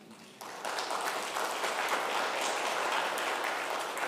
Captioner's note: crowd clapping